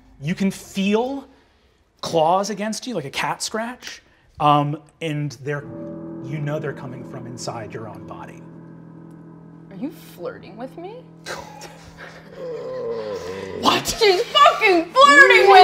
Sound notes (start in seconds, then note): 11.0 groaning; 11.3 laughing